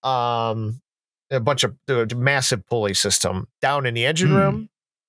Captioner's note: stammers